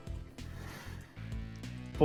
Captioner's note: sigh